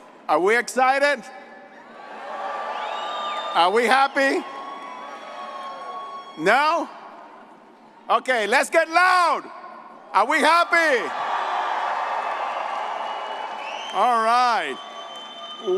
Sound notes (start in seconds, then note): 2.4 all applauding and cheering; 11.0 all cheering